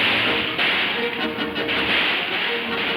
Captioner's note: man whistles